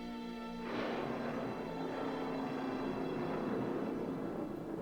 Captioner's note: thunder